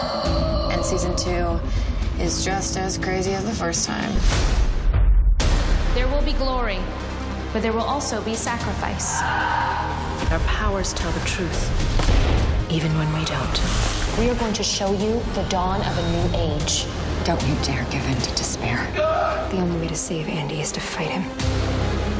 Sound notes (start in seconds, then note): 18.9 yell